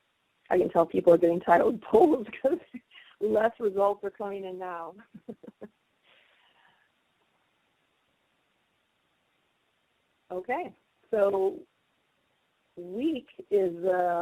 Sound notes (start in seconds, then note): 5.0 silence; 5.0 laughter